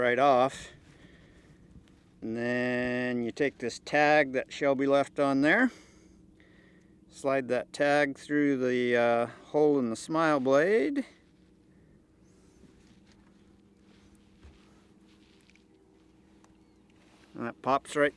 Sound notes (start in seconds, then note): none